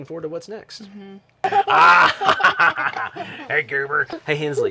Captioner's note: laughing